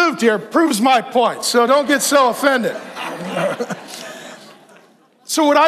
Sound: all laughing

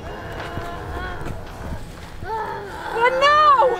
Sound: grunting

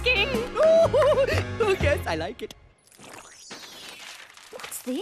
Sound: giggling, cheering

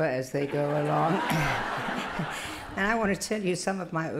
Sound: laughter

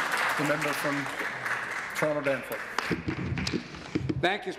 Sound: applause

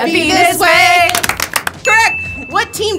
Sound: everyone claps

